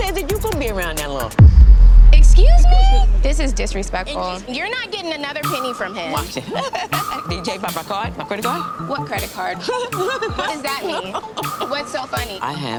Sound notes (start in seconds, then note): 1.4 dramatic music; 6.2 laughing; 9.5 laughing